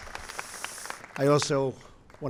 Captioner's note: applause